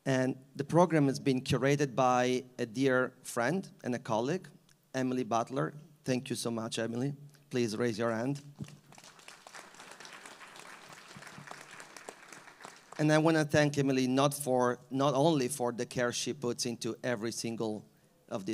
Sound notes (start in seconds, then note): 8.6 all applauding